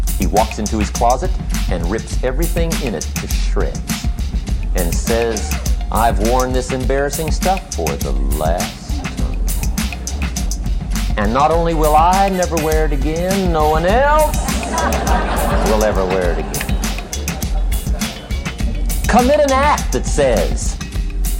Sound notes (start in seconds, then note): 16.4 chuckle